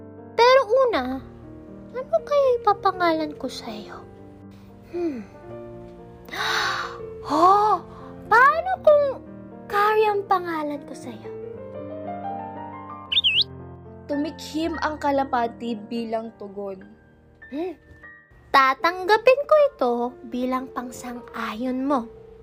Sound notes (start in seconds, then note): 6.3 gasping; 13.1 tweet